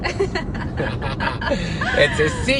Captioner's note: laughs